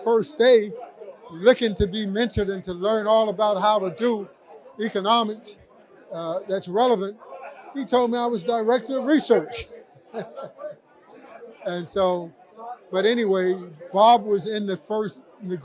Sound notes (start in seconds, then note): 10.0 laughter